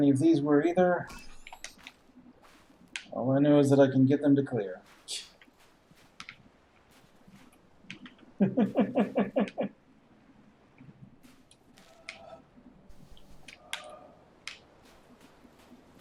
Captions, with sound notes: any of these were either; all I know is I can get them to clear. [laughs softly] [chuckles]